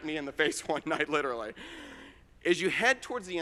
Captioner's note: chuckling